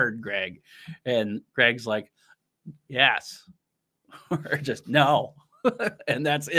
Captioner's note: chuckles